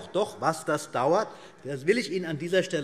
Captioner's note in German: Zurufe SPD